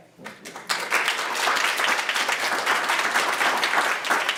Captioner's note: audience claps